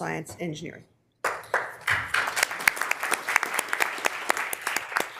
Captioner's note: members applauding